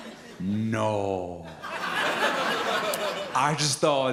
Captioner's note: audience laughs